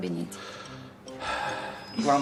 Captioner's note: inhales/exhales deeply